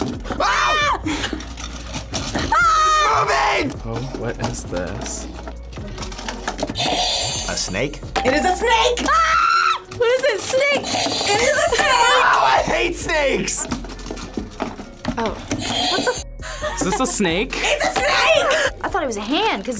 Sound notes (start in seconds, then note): 0.3 both scream; 2.4 screams; 6.5 buzzer rings; 9.1 screams; 15.2 buzzer rings; 15.6 laughs